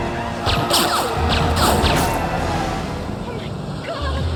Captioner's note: grunting; gun firing